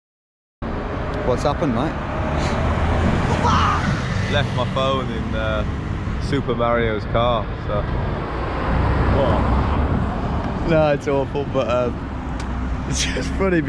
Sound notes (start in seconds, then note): 3.2 laughing